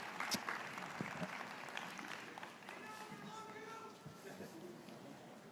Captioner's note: graduates cheering